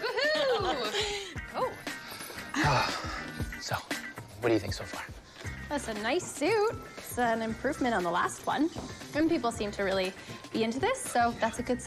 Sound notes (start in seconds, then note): 0.9 sighs